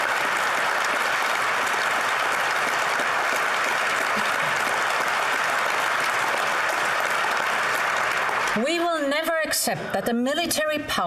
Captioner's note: applause